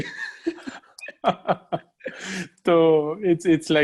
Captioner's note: laughing